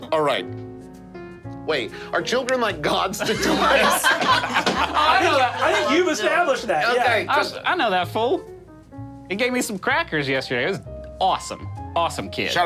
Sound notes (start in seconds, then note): 2.9 group laughing